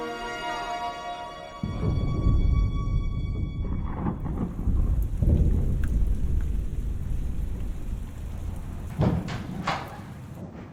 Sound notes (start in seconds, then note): 1.6 thunder rumbling; 5.2 rain pattering